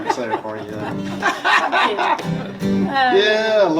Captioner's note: laughing